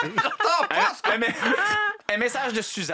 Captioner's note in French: rires